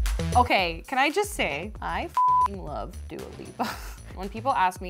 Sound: beep

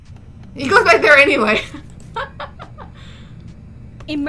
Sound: laughs

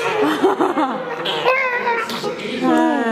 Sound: blows raspberry; laughs

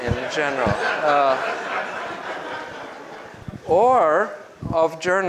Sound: group laughs

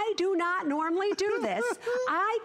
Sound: laughter

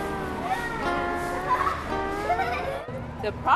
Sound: children giggling

